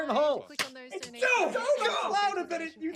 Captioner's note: exclaim